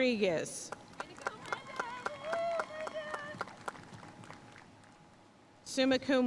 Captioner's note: audience cheering and applauding